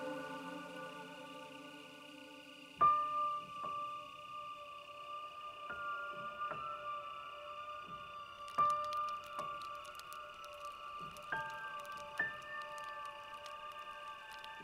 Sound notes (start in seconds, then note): 0.0 insects chirping; 0.0 tense eerie music; 8.7 flames crackling